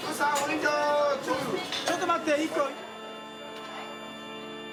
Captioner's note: speaking in foreign language